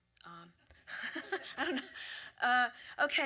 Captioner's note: laughs